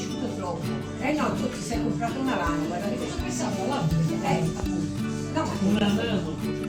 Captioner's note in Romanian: vorbind italiană